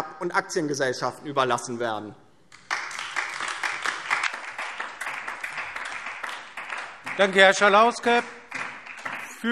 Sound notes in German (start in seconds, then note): 2.5 Beifall DIE LINKE und SPD